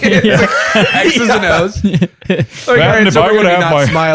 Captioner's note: laughter